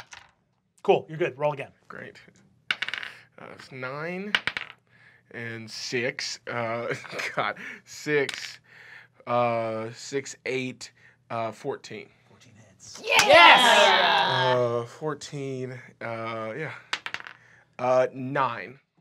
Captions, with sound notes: Cool, you're good, roll again. - Great. Nine, and six. God, six. Six, eight, 14. - 14 hits. - Yeah! - Yes! - 14. Yeah. (dice clacks) Nine.